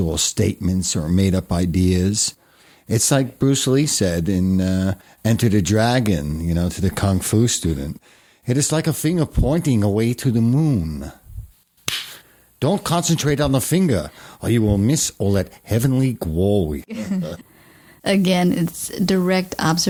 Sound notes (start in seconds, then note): 9.1 slap